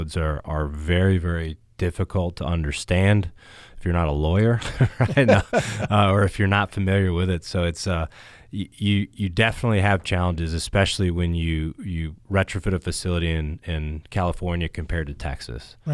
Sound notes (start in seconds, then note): 4.6 panelist laughs